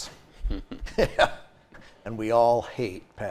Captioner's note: both chuckling